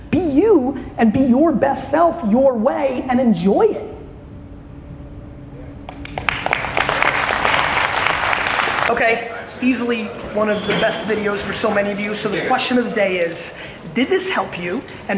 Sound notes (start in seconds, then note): 5.8 audience clapping